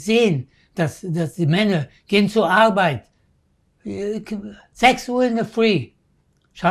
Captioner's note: german